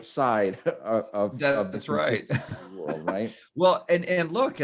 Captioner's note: laughs